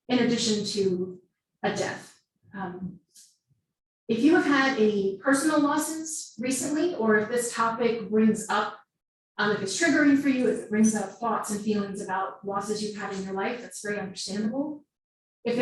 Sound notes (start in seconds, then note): none